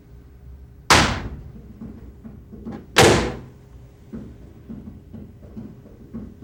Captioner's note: hand slams